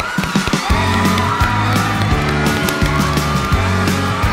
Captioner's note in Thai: กรี๊ดดด